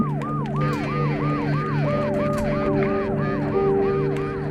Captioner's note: police sirens wailing